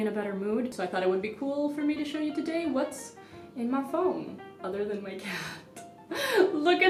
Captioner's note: chuckles